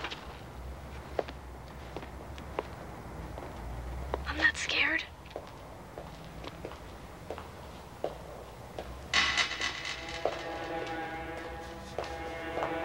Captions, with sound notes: - I'm not scared. (footsteps clacking) (tense music)